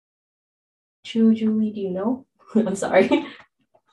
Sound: laughs

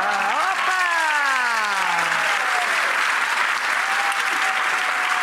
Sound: audience applauds

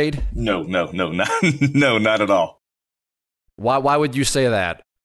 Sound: laughs

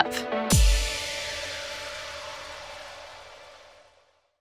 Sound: air whooshing

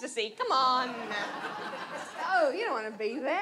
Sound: audience laughs

